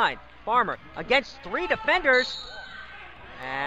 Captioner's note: whistle blows